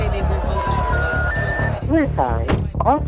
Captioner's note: electronic beeping